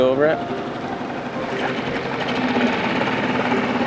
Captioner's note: engine rumbling